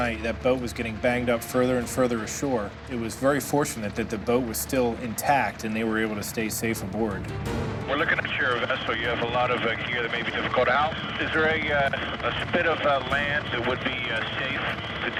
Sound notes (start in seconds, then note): 7.9 man On Radio